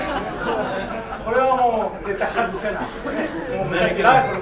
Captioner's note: speaking in foreign language; coughing